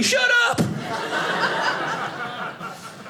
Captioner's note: audience laughing